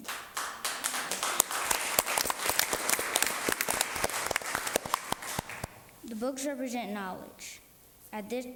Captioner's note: applause